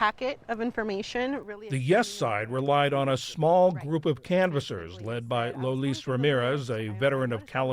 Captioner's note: voice-over